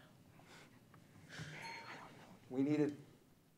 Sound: bell pings

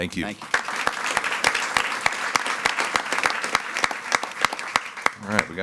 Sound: attendees clapping

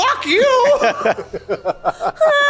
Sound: laughing

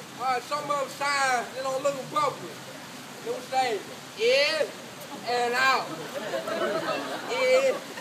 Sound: laughter in bckgrd

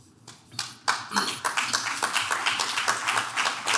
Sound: clapping

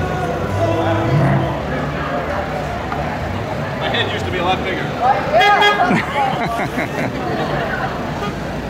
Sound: laughs

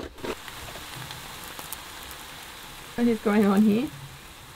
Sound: food sizzling

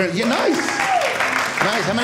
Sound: auidence cheering

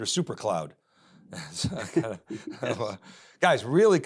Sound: everyone chuckles

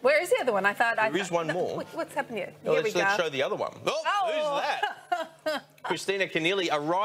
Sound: KK laughs

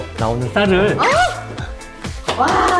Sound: ooooh↗

